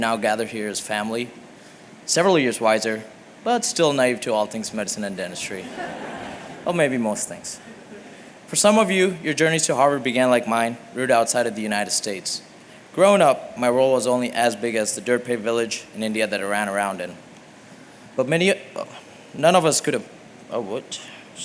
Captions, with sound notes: now gathered here as family, several years wiser, but still naive to all things medicine and dentistry-- [LAUGHTER] --or maybe most things. For some of you, your journey to Harvard began like mine, rooted outside of the United States. Growing up, my role was only as big as the dirt-paved village in India that I ran around in. But many-- none of us could have--